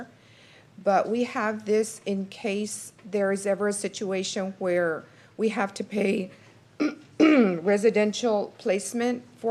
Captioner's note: clears throat